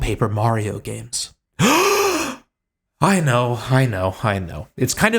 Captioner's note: gasp